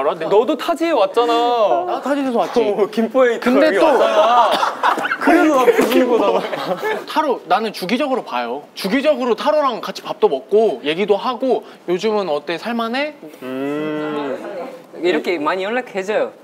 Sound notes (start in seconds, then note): 6.1 punching